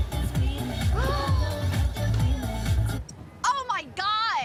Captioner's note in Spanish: Grito ahogado